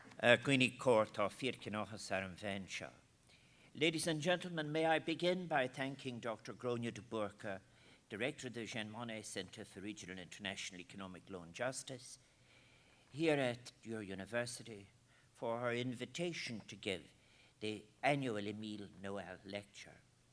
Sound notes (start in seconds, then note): 0.6 foreign language